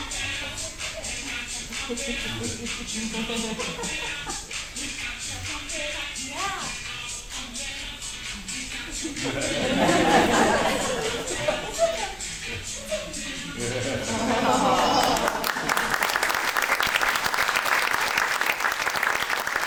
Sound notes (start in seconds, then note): 8.8 audience laughs